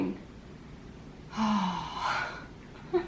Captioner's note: sighs